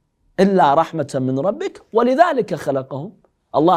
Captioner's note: Arabic